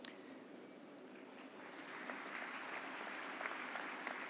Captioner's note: applause